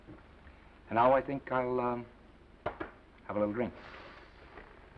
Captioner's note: hand patting